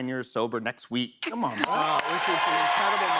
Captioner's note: cheers and applause